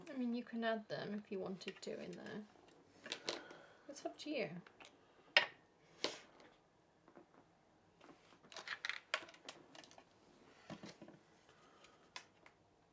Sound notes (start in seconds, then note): 8.0 rustling